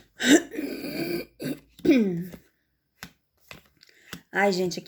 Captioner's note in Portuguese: limpando a garganta